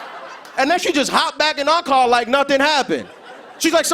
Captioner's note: laughter